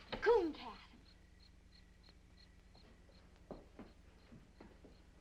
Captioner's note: insects chirping